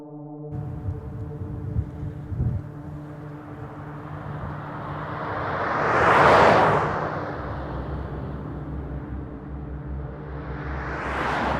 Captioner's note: roadway noise